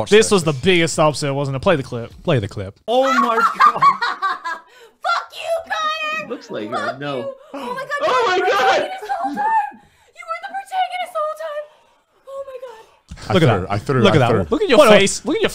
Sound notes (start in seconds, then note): 3.0 laughing